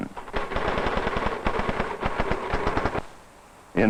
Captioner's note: typing